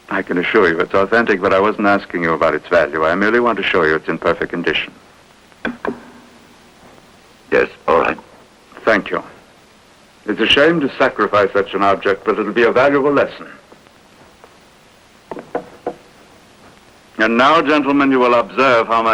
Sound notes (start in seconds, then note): none